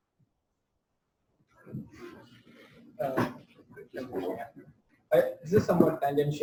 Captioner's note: pause